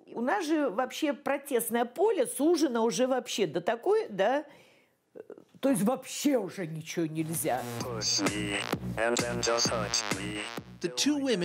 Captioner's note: speaking russian